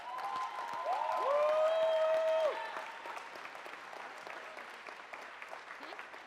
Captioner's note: audience cheers and applauds